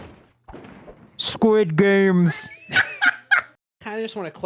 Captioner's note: goofy dude voice; laughing